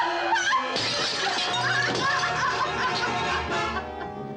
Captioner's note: suspenseful orchestral music; glass shatters